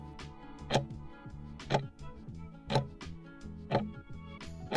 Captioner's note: timer ticking